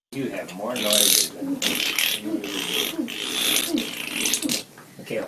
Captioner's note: blowing raspberries